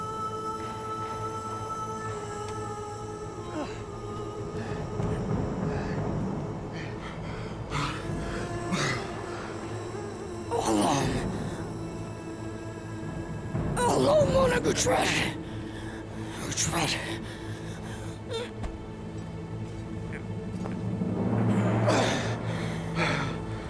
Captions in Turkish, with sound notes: (Müzik - Hüzünlü) (Nefes sesi) Allah’ım… Allah’ım bana güç ver. Güç ver. (İnilti sesi) (Nefes sesi)